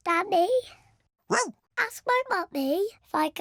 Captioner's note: barks; oinks